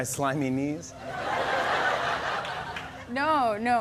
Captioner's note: laughter